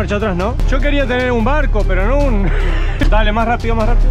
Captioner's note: laugh